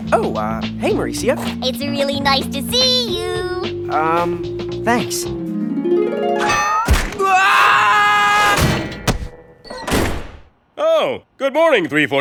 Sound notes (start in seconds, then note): 0.3 singsong; 6.9 hard punch